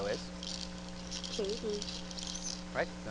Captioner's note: voiceover